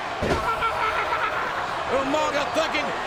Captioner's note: Umaga screams